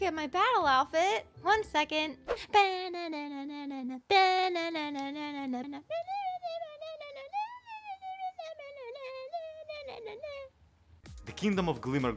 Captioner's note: hums a magical girl transformation theme